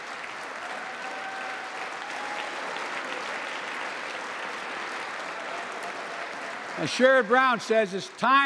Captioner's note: applause